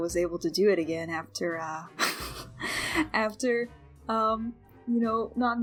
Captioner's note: laughs